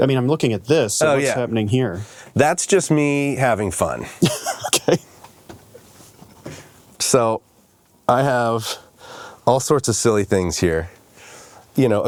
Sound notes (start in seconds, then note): 4.2 laughs